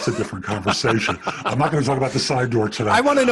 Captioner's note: chuckles